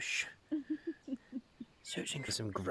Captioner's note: human Giggles